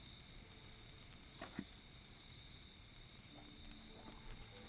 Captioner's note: none